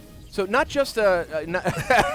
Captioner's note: laughter